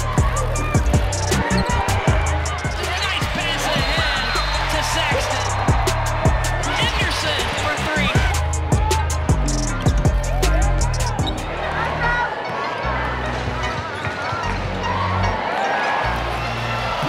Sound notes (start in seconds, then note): 0.0 crowd cheering; 0.0 hip hop music; 6.0 hip hop music; 8.4 hip hop music; 12.1 crowd cheering